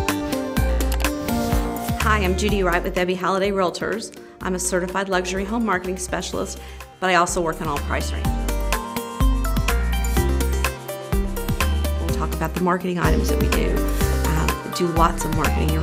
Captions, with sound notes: (mouse click) - Hi, I'm Judy Wright with Ebby Halliday Realtors. I'm a Certified Luxury Home Marketing Specialist, but I also work on all price ranges. (uptempo music) We'll talk about the marketing items that we do. We do lots of marketing.